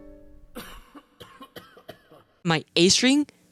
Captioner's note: coughs